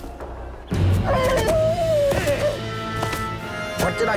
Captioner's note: whinnying